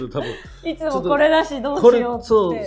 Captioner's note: laughs